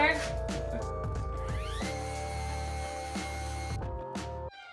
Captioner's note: saw buzzing